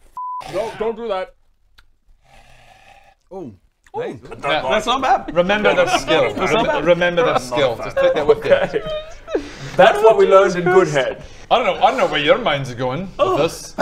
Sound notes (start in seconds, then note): 2.2 breathes